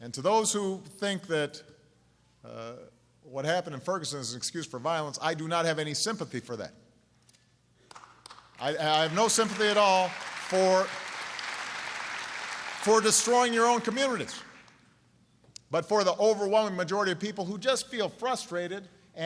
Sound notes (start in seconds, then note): 7.8 applause